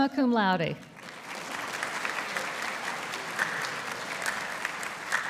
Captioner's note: audience applauding